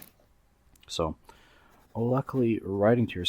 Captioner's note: catching breath